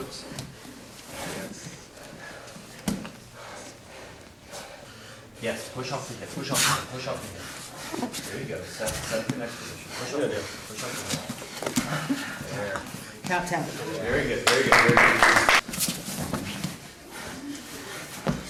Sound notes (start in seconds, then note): 2.3 heavy breathing; 14.4 audience applauding